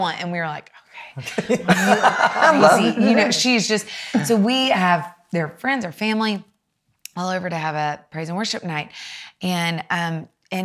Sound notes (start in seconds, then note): 1.2 laughs; 1.2 chuckles